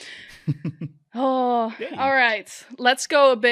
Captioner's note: laughing